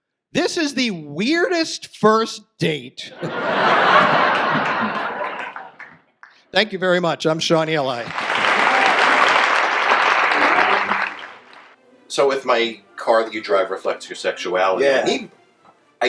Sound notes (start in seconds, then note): 3.1 audience laughs; 8.0 audience applause